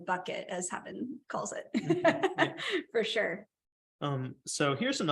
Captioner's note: laughter